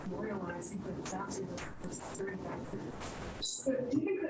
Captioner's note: questioner speaks faintly